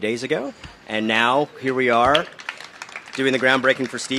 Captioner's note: applause